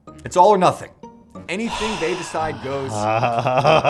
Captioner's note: sighs